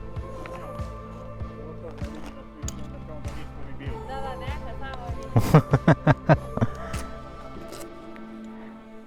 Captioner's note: laughter